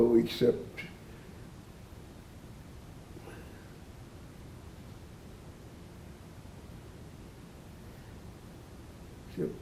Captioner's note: pauses 8 seconds